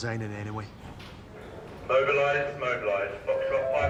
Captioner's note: man over P.A